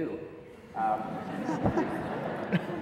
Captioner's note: audience laughs